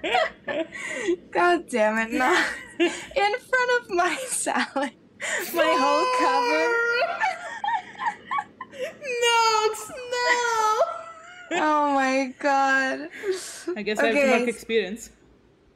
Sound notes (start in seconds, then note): 5.2 cries of despair